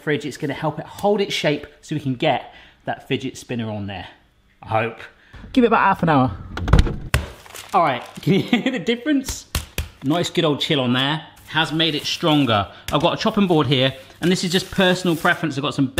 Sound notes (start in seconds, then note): 6.4 door shutting; 6.8 dough thumping; 8.2 chuckling; 9.2 hand slapping